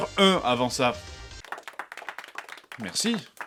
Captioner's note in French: Faibles applaudissements